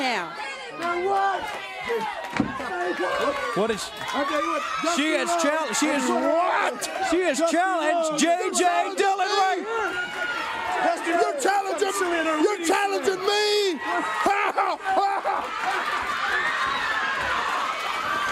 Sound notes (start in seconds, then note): 9.1 crowd cheering